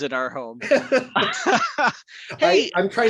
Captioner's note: both laugh